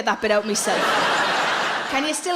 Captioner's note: audience laughs